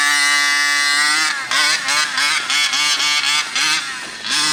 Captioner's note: RC engine revving